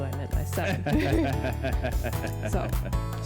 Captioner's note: both laugh